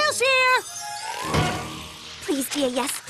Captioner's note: thud